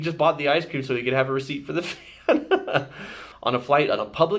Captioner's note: laughs